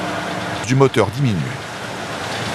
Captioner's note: foreign language